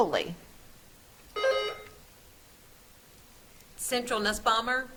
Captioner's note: buzzer trills